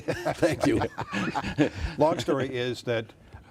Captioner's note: laughing